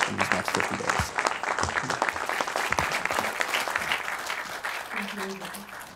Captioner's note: audience applauding